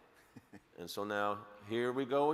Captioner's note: laughing